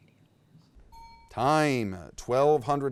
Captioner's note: bell ding